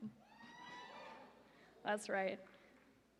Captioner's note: audience cheers